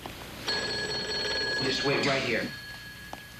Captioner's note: phone ringing